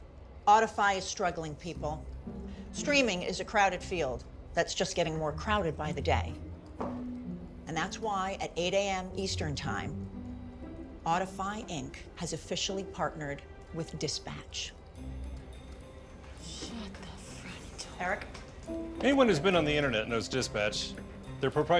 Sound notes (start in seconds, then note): 15.0 gasps